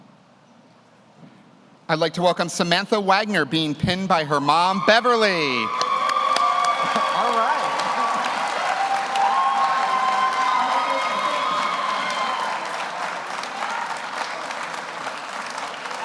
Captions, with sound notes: I'd like to welcome Samantha Wagner, being pinned by her mom, Beverly. (audience cheers) (audience applauds) All right. (audience cheers) (audience applauds)